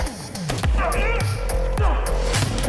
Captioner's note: plastic slamming